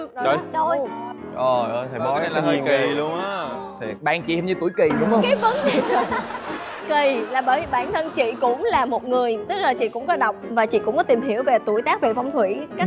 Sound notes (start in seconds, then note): 5.0 laughter